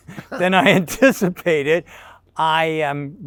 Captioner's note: chuckles